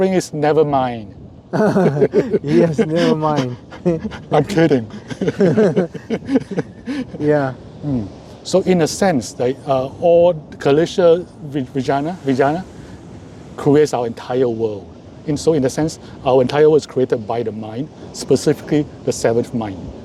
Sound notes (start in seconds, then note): 1.5 laughs